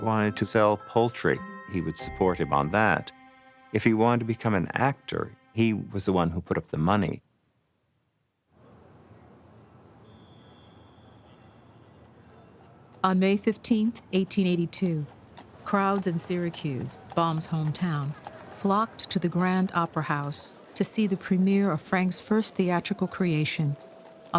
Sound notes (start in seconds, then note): 10.0 horse trotting, whistle blows